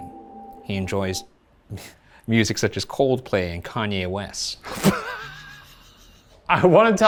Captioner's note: laughs